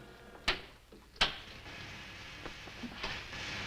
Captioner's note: buttons snapping